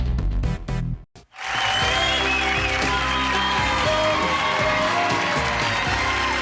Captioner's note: cheering; lively music